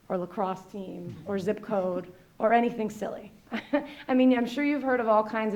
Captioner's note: laughs